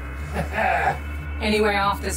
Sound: Max chuckles smugly

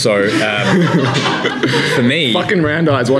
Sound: laughing

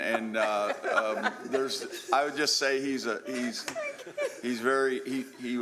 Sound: laughter

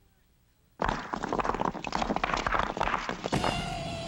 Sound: bricks Clattering

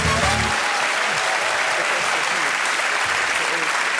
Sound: dramatic music playing; cheers and applause

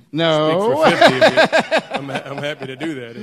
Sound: laughs

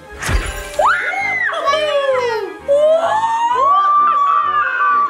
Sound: all squealing

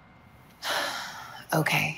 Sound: sigh

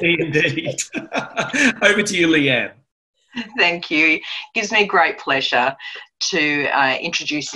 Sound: laughter

